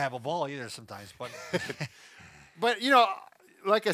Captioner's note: both men laugh